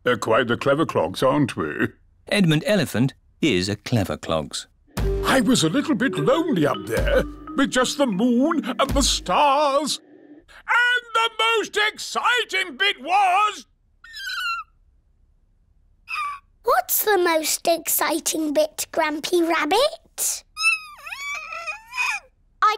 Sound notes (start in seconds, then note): 14.0 squeak!; 20.6 squeaks